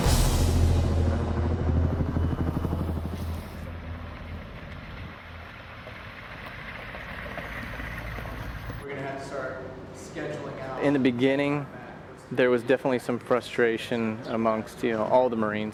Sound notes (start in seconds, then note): 0.0 sound of helicopter rotors; 5.0 Humvee engine